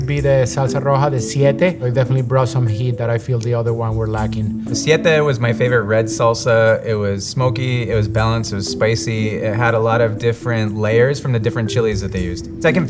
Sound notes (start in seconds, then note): none